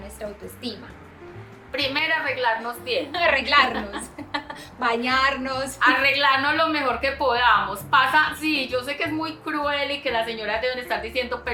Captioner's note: laughs